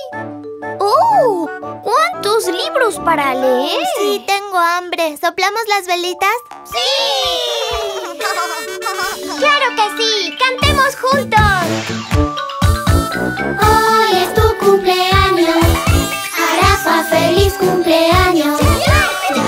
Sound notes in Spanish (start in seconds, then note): 7.5 Sonido de bocina; 7.9 Risas